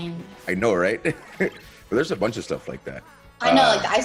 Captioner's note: laugh